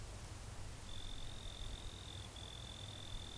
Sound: cricket chirp

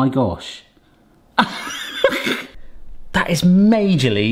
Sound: laughs

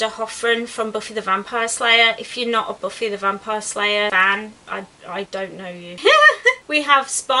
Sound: laughs

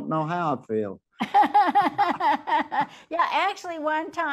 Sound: laughs

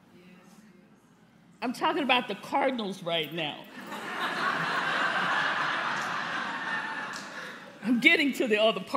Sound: laughter

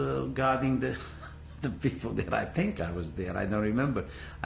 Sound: laughs

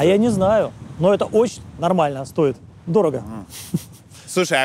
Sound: chuckles

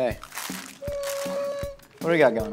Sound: high pitched whining

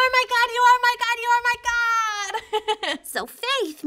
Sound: laughs

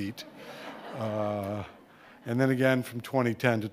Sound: audience laughing

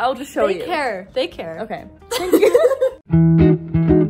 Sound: laugh

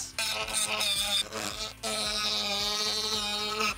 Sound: tool whirs

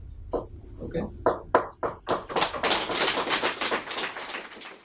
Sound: applause

